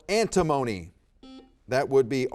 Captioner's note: buzzer beeping